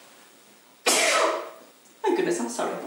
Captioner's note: woman sneezing